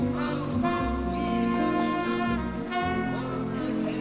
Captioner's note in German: Ferne Stimme wie aus Lautsprechern